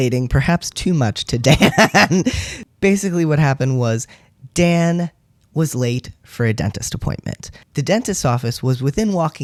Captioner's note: laugh